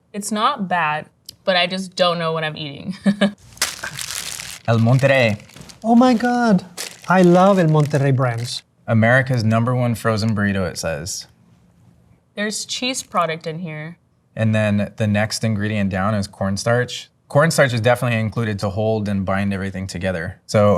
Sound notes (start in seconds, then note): 3.1 laughs; 3.4 wrapper crunching